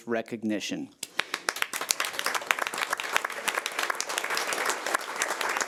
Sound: audience applauding

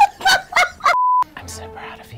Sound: laughing; beeps

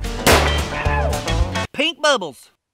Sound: gun fires; yells

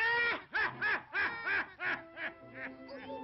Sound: evil Laugh

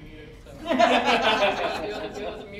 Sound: all laughing

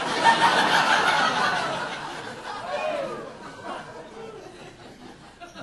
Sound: audience laughing

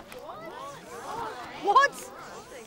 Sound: crowd

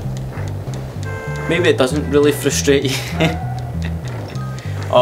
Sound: laughs

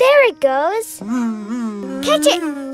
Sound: buzzing

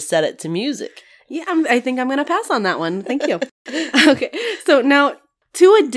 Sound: laugh

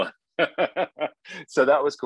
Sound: laughing

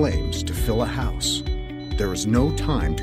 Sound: smoke alarm

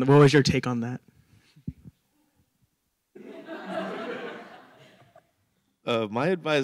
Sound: laughter

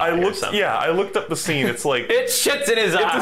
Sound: laughs

